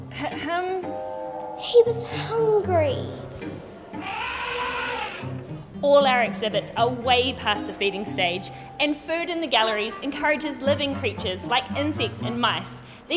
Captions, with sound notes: - Ahem. - He was hungry! (elephant trumpeting) - All our exhibits are way past the feeding stage and food in the galleries encourages living creatures like insects and mice.